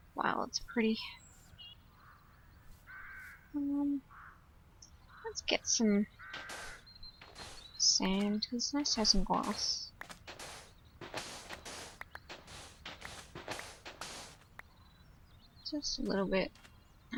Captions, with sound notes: Wow, that's prett. Um... Let's get some... sand because it's nice to have some glass. [soft shoveling noises] Just a little bit.